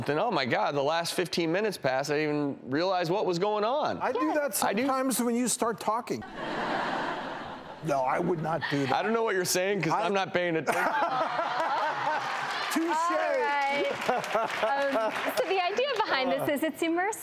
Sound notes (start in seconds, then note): 6.2 audience laughter; 10.7 laughter and applause